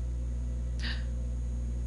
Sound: small gasp

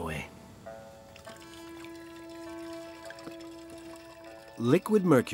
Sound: mercury trickles

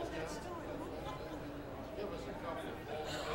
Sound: crowd chatters

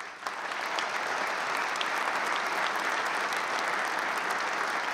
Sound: applause

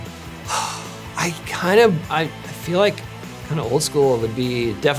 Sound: sighs

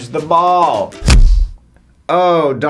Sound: ball thumps

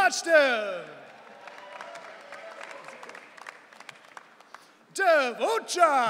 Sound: audience cheering

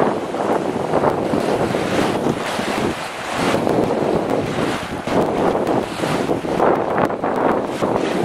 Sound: crashing waves + wind

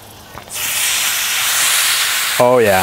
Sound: butter sizzling

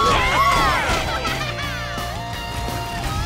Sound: laughing

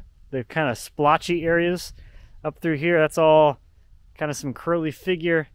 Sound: none

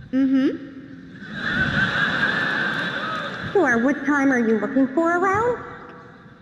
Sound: crowd Laughing

